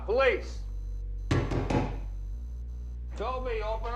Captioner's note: knocking